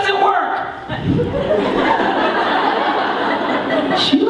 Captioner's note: laughter